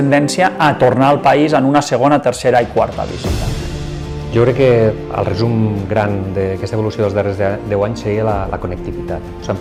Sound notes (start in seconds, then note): 4.8 speaks in foreign language